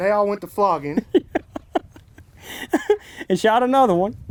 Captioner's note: laughing